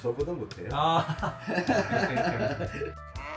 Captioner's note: laughs proudly